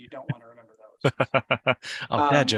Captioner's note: laughs